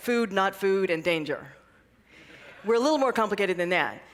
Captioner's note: laughter